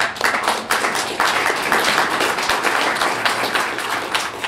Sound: clapping

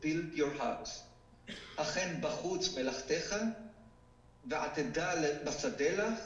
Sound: speaking foreign language

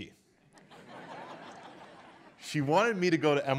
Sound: audience laughs

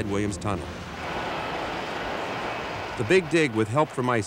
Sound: plane whooshing

